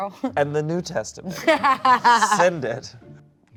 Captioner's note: laughing